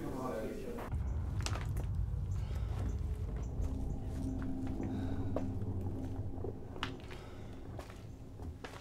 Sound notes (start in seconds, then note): 0.9 structural creaking